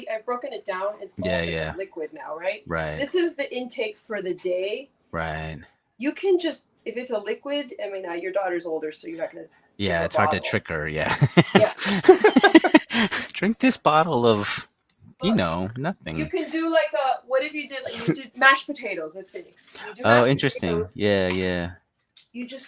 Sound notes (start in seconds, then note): 11.7 laughs